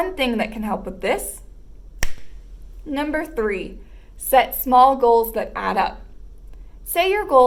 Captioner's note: snap